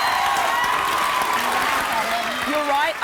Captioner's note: cheering